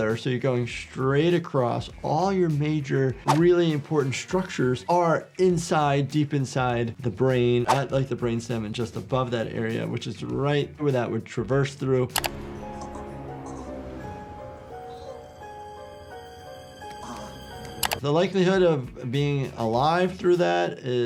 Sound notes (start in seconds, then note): 11.8 disquieting music; 12.6 Ray groaning